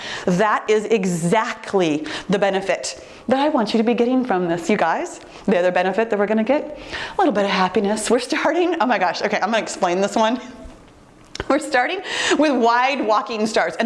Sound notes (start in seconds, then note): none